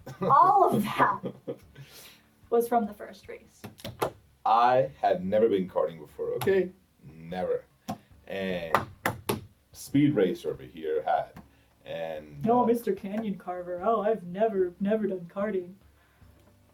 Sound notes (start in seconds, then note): 0.0 laughs; 3.7 hitting chair; 8.7 hitting chair